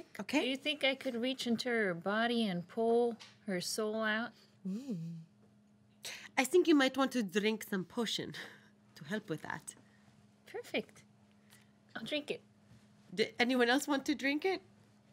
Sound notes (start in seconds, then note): none